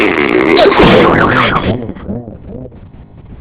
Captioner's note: groans, gasps